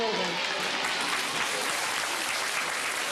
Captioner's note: applause